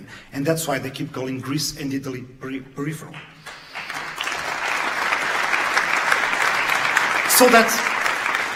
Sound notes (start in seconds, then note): 3.0 audience claps